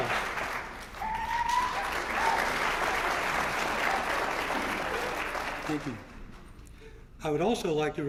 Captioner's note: applause